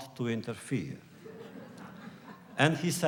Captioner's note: laughter